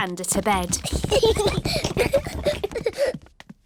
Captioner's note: children giggling